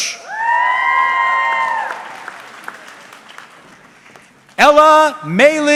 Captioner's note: audience cheering